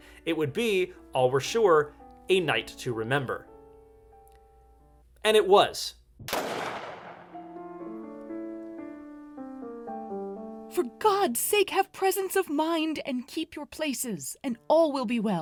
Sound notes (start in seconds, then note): 6.2 gunshot